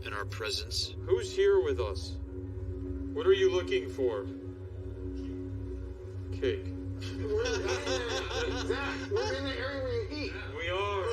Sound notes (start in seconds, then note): 7.0 all laughing